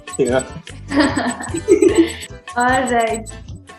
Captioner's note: laughs